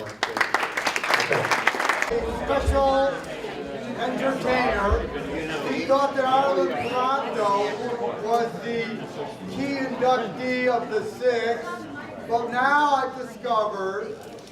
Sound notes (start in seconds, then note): 0.0 applause; 1.9 crowd noise over the speaker